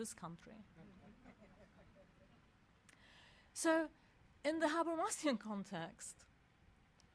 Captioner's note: laugh